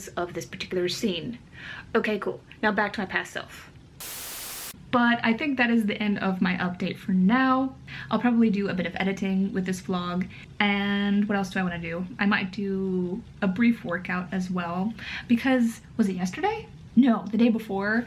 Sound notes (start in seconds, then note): 4.0 static noise